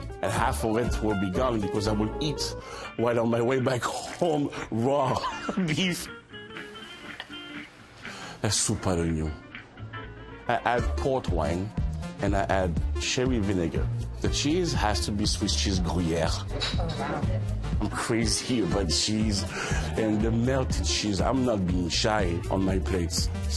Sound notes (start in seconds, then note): 5.1 laughing; 6.5 lively music playing